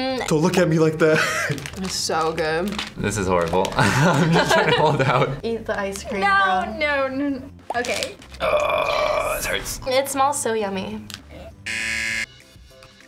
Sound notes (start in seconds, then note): 1.5 laughs; 3.8 laughs; 9.4 whispers; 11.6 buzzer rings